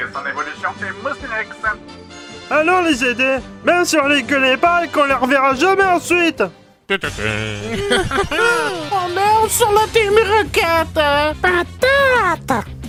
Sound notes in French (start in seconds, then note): 6.9 petits rires malfaisants; 8.8 voix de "Ondine"